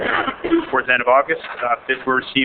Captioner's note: interrupted by cough